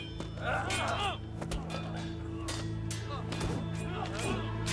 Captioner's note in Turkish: Dövüş sesleri